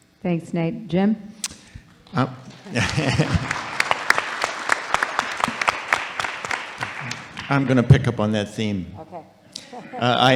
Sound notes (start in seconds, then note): 2.4 audience and panel applauding